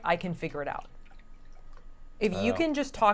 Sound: water splashing softly

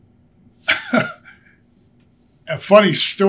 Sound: laughs

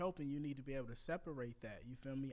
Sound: none

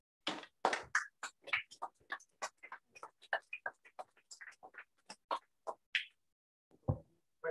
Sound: applause

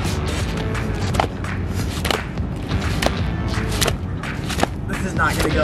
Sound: fins slapping the ground

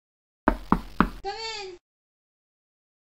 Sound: knocking

